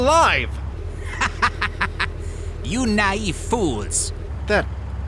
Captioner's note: laughing in german